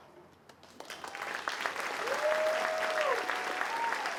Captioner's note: applause